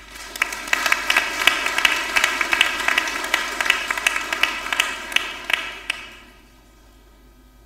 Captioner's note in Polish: oklaski